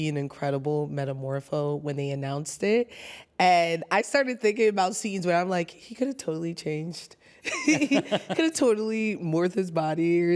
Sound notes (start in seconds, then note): 7.5 laughs